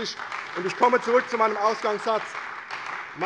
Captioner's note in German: Beifall bei der CDU und dem BÜNDNIS 90/DIE GRÜNEN